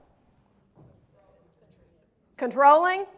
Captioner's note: crowd speaks